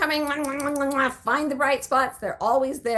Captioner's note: blowing kisses